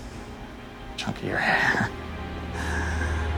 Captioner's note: chcukles